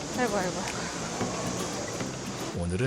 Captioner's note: muffled groans